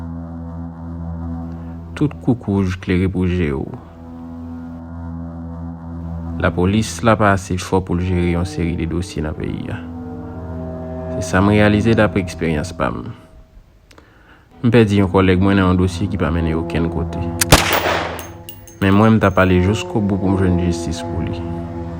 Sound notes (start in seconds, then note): 17.4 gunshot